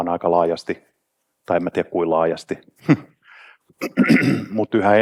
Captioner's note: chuckles